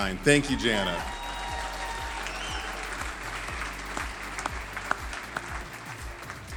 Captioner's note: audience cheering and applauding